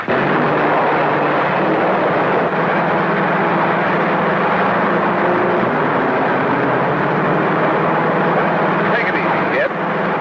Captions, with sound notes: (engine roaring) Take it easy, kid.